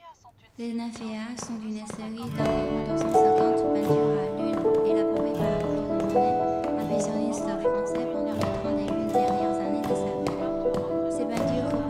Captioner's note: French